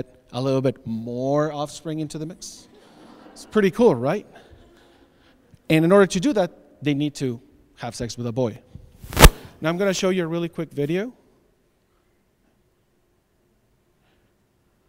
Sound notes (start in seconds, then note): 2.8 audience laughs